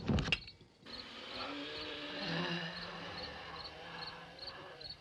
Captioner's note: groaning, wheezing